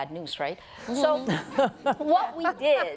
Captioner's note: laughter